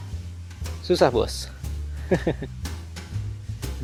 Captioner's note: laugh